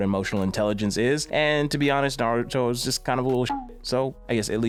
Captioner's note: beep